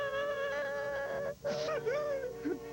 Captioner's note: crying